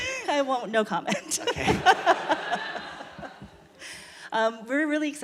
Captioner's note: audience laughter